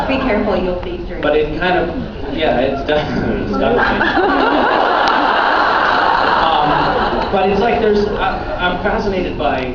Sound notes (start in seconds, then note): 2.2 laughing; 4.9 laughs